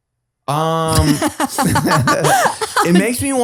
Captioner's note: all laughs